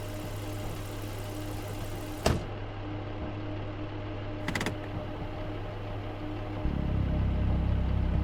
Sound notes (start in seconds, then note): 2.2 car door slams